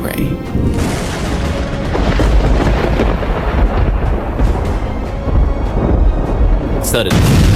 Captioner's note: thunder